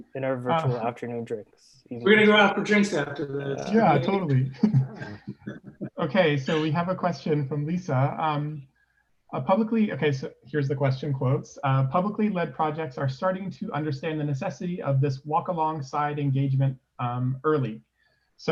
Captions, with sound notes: - In our virtual afternoon drinks. - We gonna go out for drinks after this. - Yeah, totally (laughs). Okay. So we have a question from Lisa, a publicly. Okay. So, here's the question. Quotes, "Publicly led projects are starting "to understand the necessity "of this walk alongside engagement early."